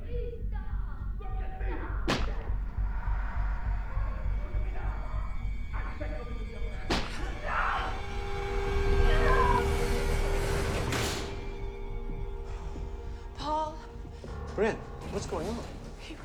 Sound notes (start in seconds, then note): 2.0 object smacking; 3.7 tense eerie music; 7.2 neighbor screams; 9.2 tense eerie music intensifies; 11.0 door clicks